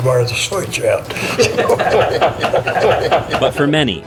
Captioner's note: laughs